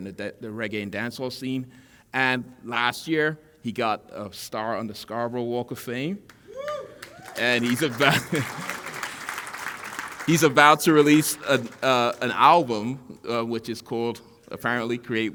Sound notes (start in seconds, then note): 6.3 applause; 8.1 chuckle